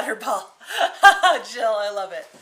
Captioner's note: laughing